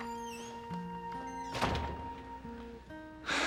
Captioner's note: door closes; sighs deeply